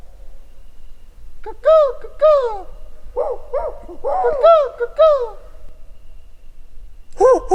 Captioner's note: animals howling; howling